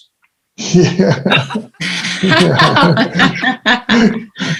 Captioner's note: people laughing